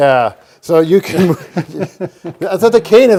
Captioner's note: men laugh